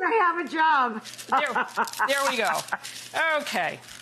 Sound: laughs

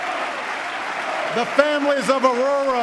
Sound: applause

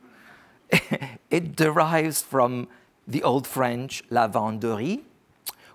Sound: speaks foreign language

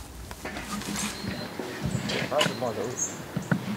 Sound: birdsong, low voice

